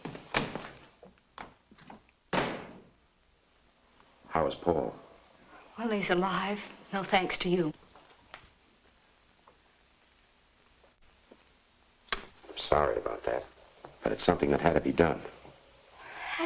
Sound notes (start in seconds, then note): 2.3 outer door bangs shut; 12.1 intercom clicks on